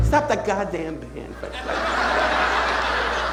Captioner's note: audience laughing